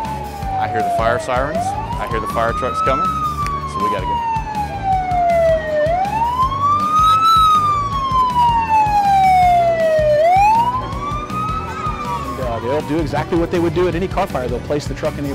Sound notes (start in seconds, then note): 3.9 fire truck sirens